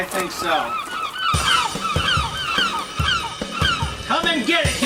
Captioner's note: gulls squawking; spirited upbeat music